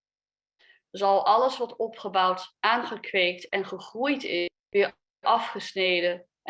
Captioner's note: speaks a foreign language